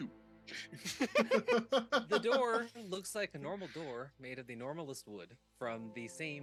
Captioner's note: laughing